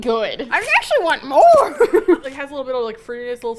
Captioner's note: laughs; silly goblin voice